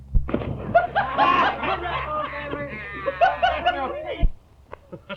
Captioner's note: water splashing; men laughing